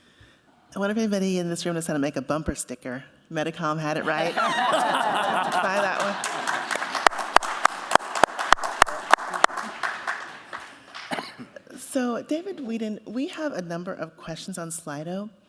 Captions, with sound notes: - I wonder if anybody in this room is going to make a bumper sticker, Pumetacom had it right? [laughter] Buy that one. [applause] So David Weeden, we have a number of questions on Slido